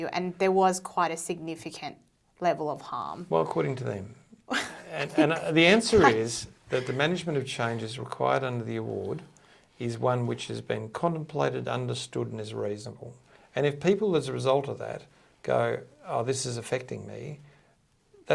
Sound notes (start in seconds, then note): 5.9 laughing